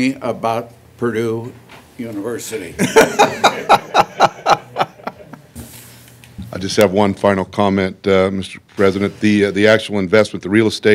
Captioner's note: laughter